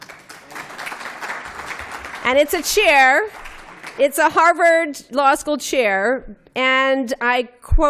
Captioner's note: applause